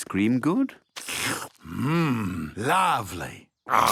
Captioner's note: slurps